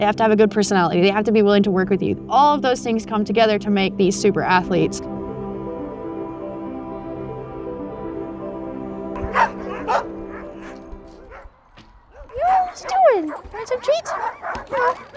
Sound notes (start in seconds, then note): 6.2 bright music; 9.1 dogs barking